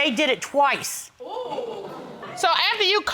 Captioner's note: crowd gasping